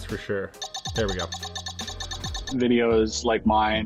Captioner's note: beeping